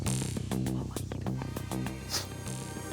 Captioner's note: wispering